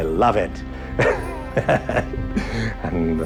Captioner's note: laughter